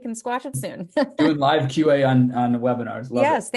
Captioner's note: both laughing